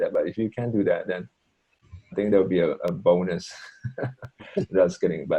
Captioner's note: laughs